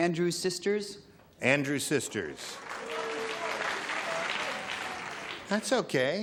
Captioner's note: applause; booing